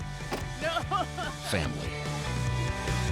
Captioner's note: laughing